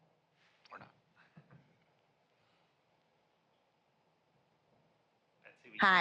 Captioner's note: laughter